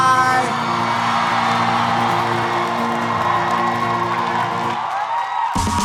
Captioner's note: audience applauding; audience cheering